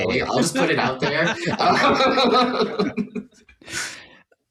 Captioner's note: laughter